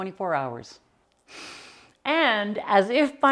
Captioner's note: inhaling deeply